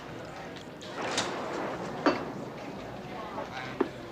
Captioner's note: thunderclap